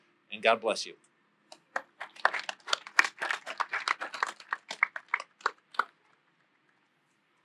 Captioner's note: applause